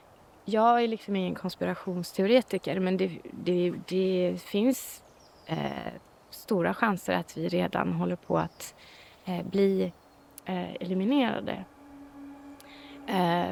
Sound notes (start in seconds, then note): 5.0 birds chirping; 10.2 threatening ambient music